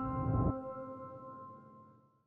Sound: bright music; whoosh

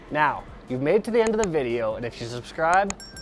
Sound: mouse clicking; bell chimes

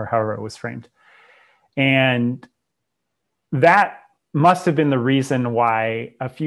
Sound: breath

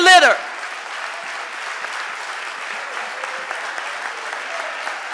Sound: audience applauding

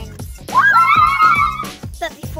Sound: cheering

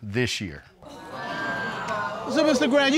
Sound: audience exclaiming

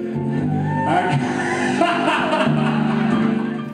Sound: soundbite of laughter

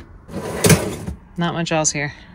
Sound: drawer whooshing

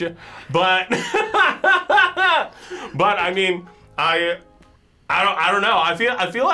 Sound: laughs

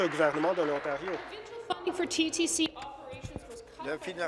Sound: applause

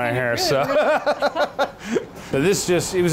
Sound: laughing

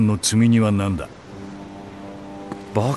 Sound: ship horn blows

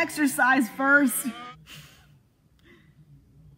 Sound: chuckles

